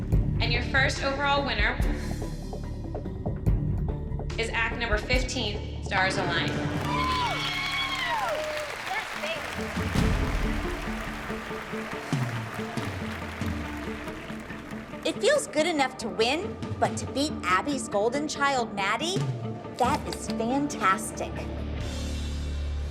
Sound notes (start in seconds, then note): 10.0 applause